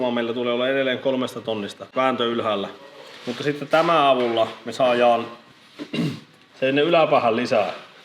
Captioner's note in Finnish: rykäisee